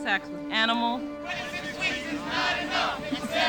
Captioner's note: chanting